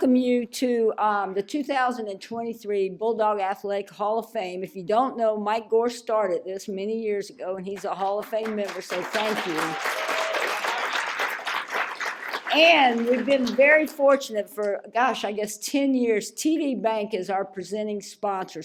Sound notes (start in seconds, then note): 9.8 applause